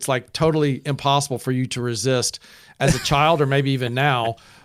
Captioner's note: laughs